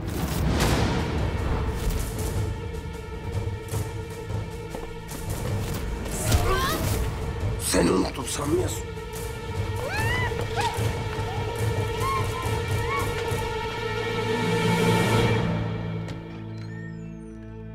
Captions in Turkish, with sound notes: (Müzik - Gerilim) Bırak! Seni unuttum sanmayasın! (Müzik - Gerilim) (İnleme sesi)